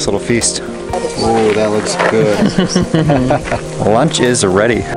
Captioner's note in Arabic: قهقهة